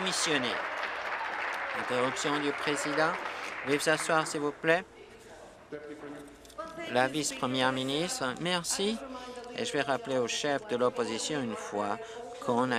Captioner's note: applause